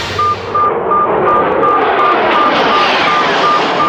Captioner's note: beeping